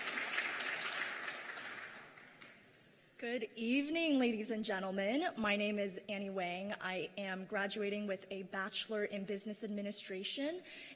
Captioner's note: cheers and applause